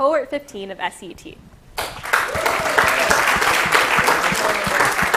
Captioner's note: applause